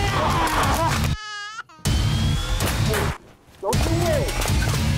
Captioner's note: screaming; baby crying